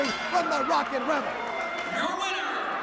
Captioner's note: bell ringing